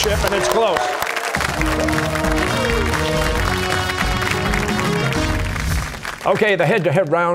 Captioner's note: cheers and applause